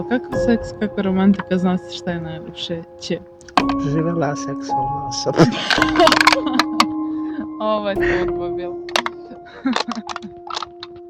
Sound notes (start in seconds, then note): 5.4 laughs; 8.7 laughs